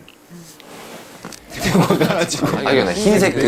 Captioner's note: scurry